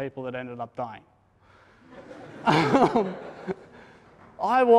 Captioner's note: laughter